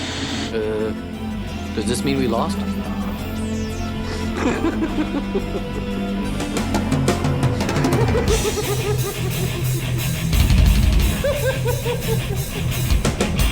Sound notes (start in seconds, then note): 4.3 laughs; 8.3 giggling; 8.3 heavy rock music